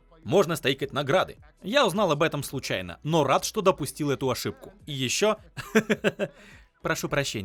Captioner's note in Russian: смеются